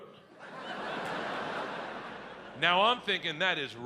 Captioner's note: audience laughs